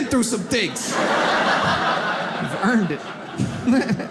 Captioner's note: audience laughs